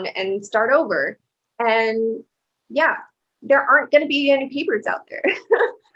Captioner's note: laughter